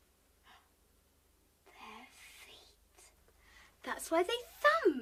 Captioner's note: gasps